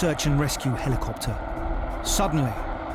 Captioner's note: helicopter whirls